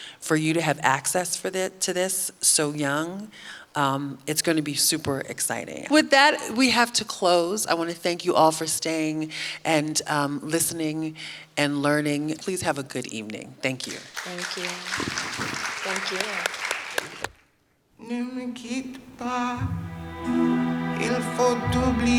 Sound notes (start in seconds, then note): 13.8 audience clapping; 19.6 gentle wistful music